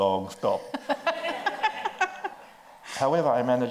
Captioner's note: laughs